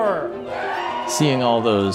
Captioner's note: crowd cheers